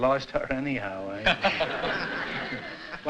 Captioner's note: laughter